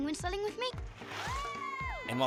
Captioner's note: shouting